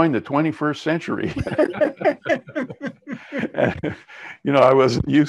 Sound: both laughing

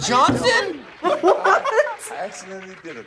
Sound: laughs

